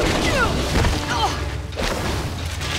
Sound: groaning

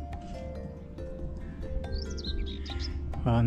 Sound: laughs

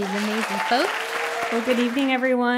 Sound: applause

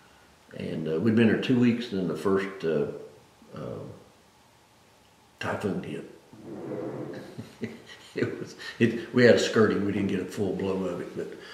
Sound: laughs

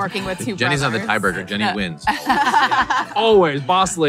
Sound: laughing

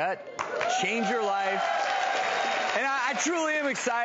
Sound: applause

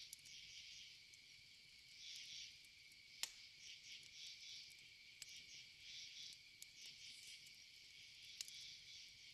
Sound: crickets & forest ambiance

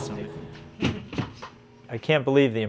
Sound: sound of sign dropped into garbage

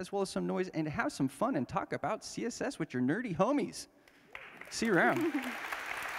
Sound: applause

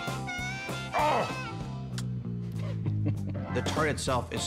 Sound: smooching

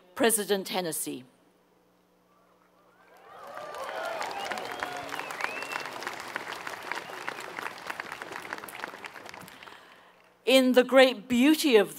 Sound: applause

